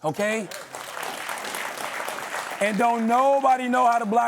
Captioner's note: applause